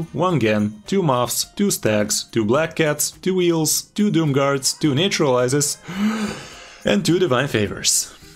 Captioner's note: inhales